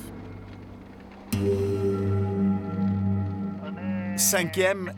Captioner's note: Arabic spoken audio